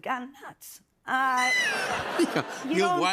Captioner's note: laughter